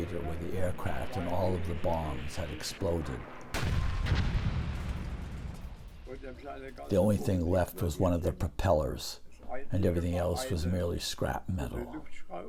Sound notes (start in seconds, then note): 3.9 bombs explode